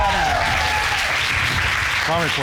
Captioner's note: applause